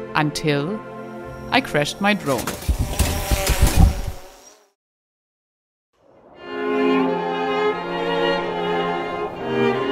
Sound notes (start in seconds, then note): 3.2 drone buzzing